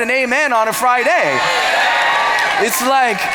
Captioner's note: cheers